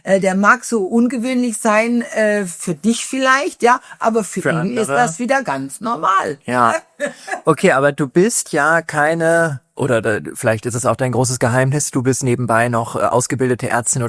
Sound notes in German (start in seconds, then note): 7.0 gelächter